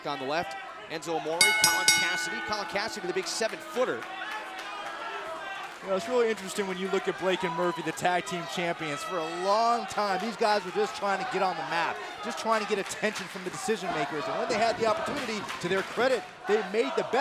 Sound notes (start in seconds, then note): 1.4 bell ringing